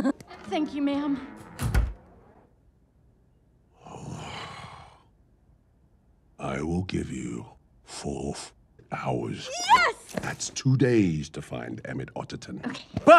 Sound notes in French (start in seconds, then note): 3.8 Soupire de désapprobation